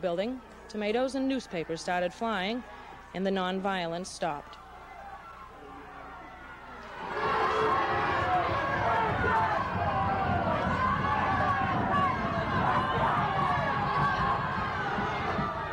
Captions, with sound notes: And this is, I think, a very peaceful way of showing, and all our marches have been peaceful. We have never had any trouble on any of the marches. (crowd chanting) (crowd booing)